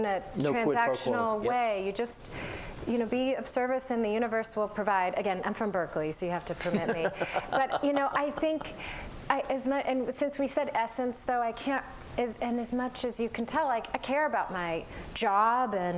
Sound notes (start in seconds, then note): 6.6 laughter